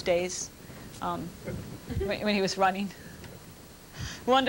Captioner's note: laughter